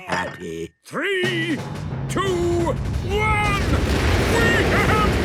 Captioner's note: rockets igniting